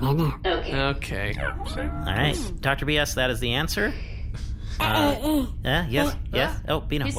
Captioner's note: straining